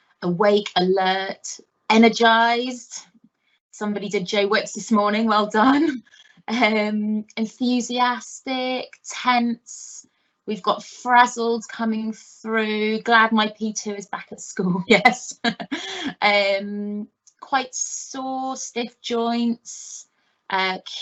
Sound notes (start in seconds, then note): 15.5 chuckling